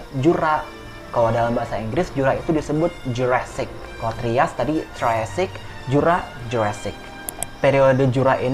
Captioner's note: in Indonesian